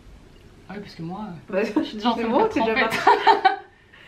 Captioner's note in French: rires